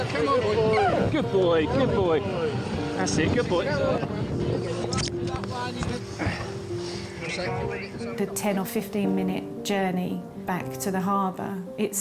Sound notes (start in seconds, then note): 5.9 overlapping chatter sounds